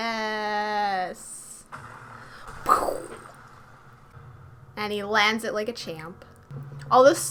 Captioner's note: sound effects